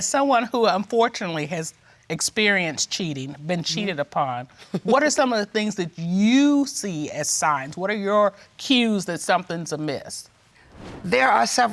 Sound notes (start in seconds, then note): 5.2 laughs